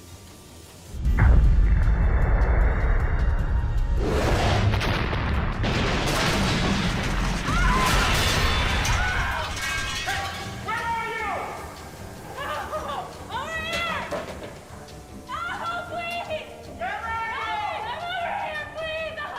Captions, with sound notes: [RADHIKA SCREAMS] HEY! WHERE ARE YOU?! [GASPS] OVER HERE! OHH HO! PLEASE! WHERE ARE YOU?! HELP ME! I'M OVER HERE!